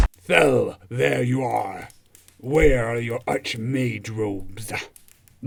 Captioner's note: stomping approaches; manly voice